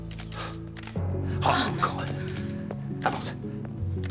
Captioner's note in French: soupirs; cliquetis d'appareils photo